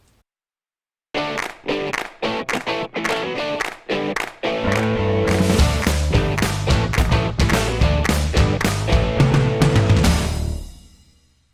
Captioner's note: claps